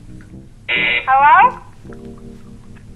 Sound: buzz

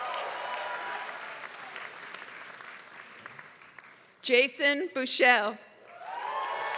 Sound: applause; applause

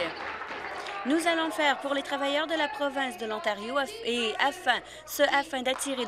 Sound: applause

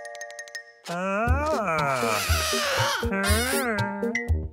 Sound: tinkling; squeaking

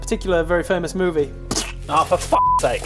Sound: splat

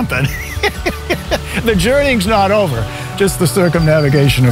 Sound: laughs

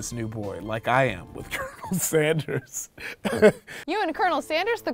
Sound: laughs

